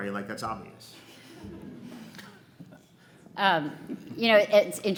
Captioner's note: audience laughs